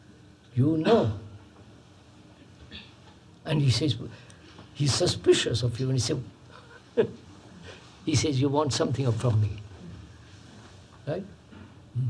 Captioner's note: laughs